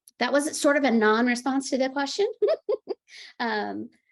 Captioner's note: laughing